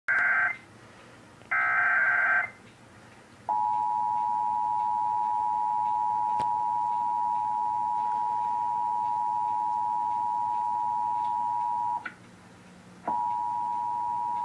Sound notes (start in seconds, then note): 0.0 eas tones; 3.5 double toned attention signal